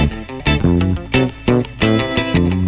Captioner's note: blowing